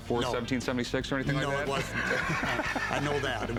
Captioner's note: laughs